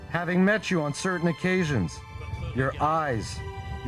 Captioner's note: speaking foreign